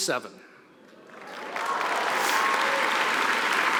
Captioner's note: applause